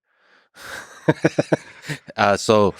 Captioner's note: Lex and Robin chuckle